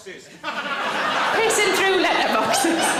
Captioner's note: audience laughs